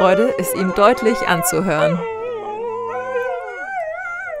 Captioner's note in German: Die Hunde jaulen